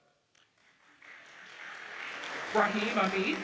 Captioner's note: audience cheers and applauds